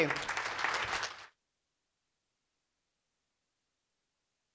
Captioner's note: audience applauding